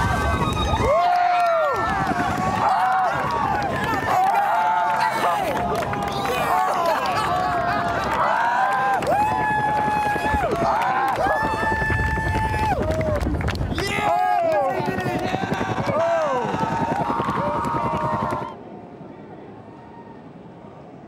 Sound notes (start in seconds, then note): 13.7 cheering